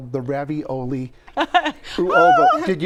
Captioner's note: laughs